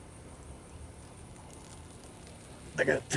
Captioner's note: urination trickling